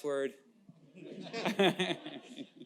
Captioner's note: laughter